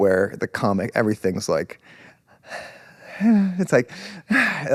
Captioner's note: exhales